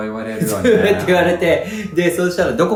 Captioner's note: laughs